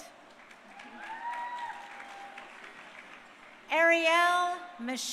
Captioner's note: crowd cheering